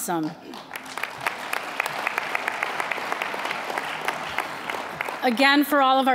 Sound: applause

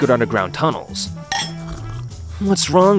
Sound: glass clinking

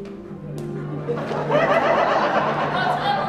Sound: <i>Audience laughing</i>

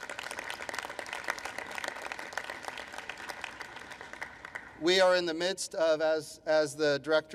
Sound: applause

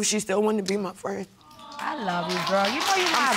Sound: sobs

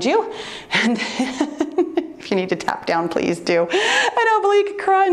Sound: laughs

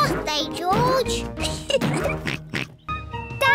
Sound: oinks; laughs

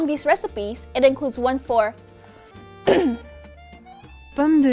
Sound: clears throat

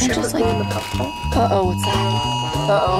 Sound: alarm sounding

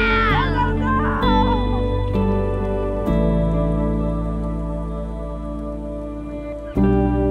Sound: upbeat music; birds chirping

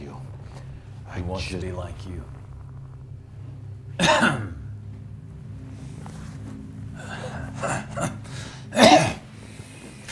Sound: coughs

